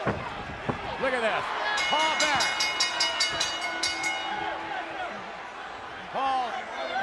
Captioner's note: bell ringing